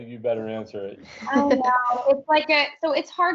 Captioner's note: laughs